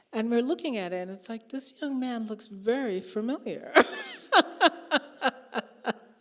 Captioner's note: laughing